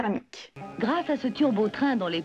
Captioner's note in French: voix de présentatrice